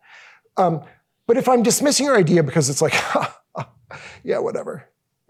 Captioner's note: laughs